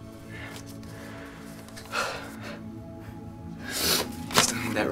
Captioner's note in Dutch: zucht